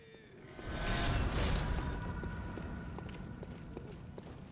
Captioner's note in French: bruit de récupération des échos du sang